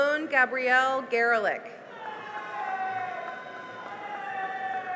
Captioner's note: cheering and applause